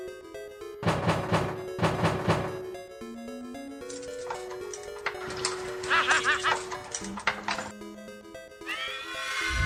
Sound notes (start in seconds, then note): 3.8 keys jingling; 5.2 laughing